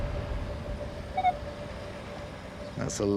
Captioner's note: beeping